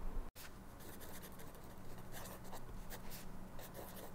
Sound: pen scribbling

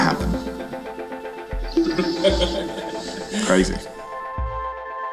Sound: background laughter

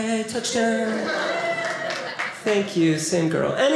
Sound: audience applauding

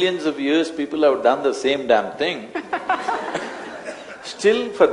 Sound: laughter

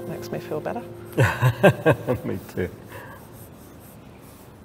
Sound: laughs

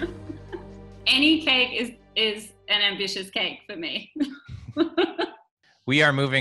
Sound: laughs; laughs

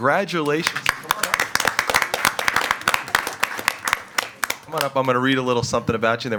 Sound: attendees applauding

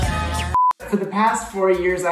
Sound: electronic beeping

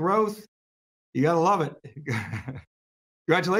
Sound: laughs gently

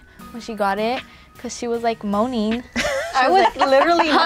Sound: laughing

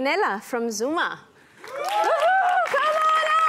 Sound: cheering, applause

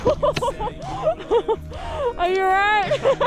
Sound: laughing

